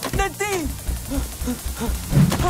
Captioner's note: gasps; panting